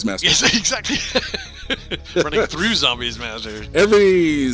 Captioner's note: laughing